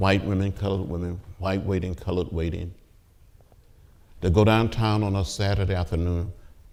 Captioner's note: none